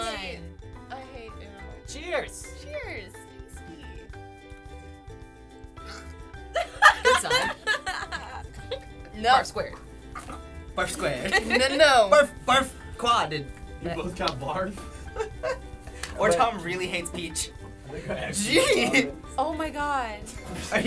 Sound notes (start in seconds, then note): 5.8 gags; 6.5 laughs; 11.2 laughter; 15.0 laughs